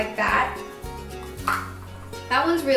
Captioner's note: clattering